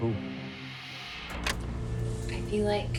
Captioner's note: clicking